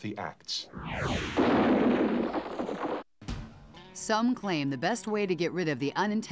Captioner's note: rocket fires, explodes